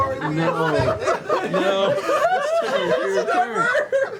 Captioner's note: laughter